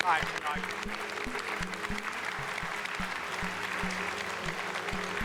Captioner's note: audience applauding